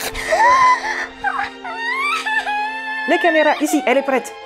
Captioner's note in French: sanglote fort